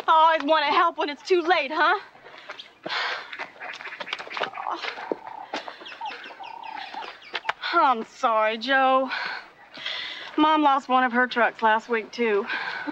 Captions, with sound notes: - Always want to help when it's too late huh? (huffs) (sighs) (birds chirping) I'm sorry Joe, Mom lost one of her trucks last week too.